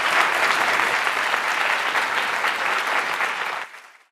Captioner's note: applause